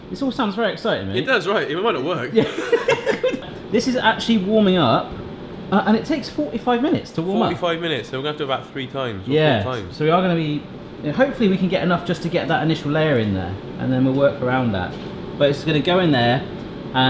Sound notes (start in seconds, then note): 2.3 laughing